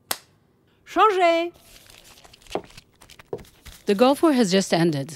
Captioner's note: woman speaking French